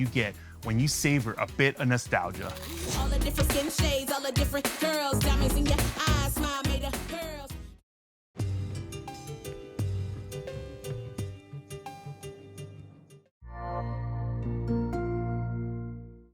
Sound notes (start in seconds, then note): 8.8 gentle music; 13.1 gentle tone ringing